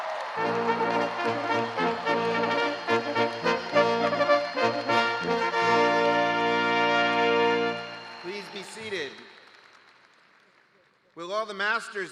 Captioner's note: cheers and applause